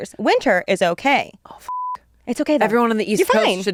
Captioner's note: beep